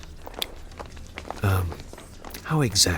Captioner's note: receding footsteps